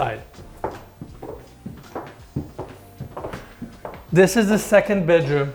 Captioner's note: shoes tapping